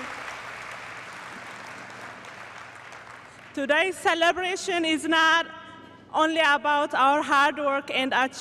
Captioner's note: applause